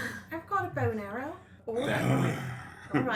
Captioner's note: growls